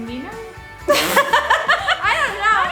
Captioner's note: laughing hysterically